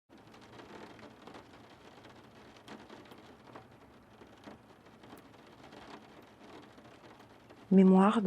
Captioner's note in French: Bruit de pluie